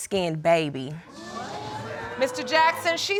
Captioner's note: audience exclaiming